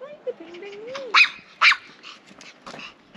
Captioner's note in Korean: 왈 왈